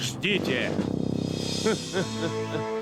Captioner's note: chuckling